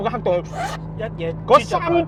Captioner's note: sip